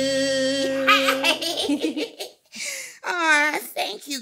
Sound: chuckling

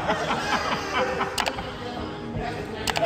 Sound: laughing

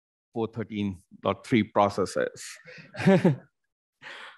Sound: laughing

